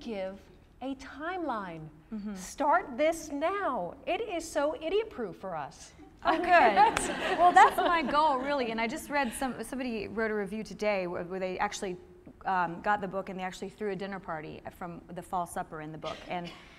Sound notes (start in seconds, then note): 6.2 laughter